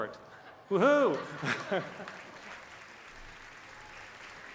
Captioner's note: cheers and applause